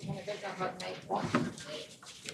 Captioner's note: speaking French